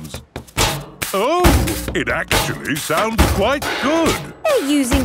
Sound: rhythmic clanging

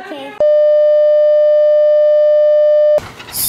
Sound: sine wave tone

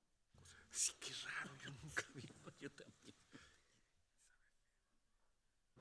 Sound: speaking Spanish

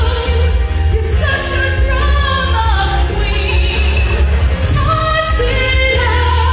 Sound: audience laughter

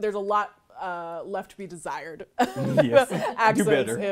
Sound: chuckles

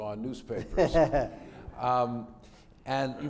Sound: laughter

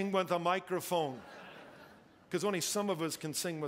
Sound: congregation laughing

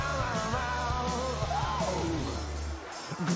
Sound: yelps

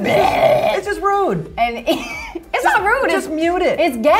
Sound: laughs

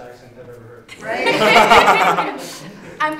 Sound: laughter

